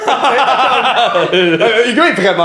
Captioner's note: laughter